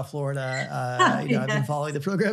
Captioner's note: laughter